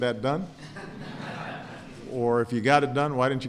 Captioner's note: laughter